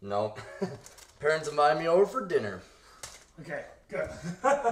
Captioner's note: laughs